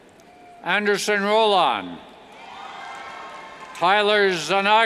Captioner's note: cheers